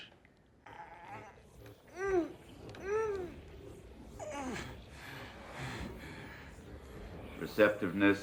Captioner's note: Owen grunting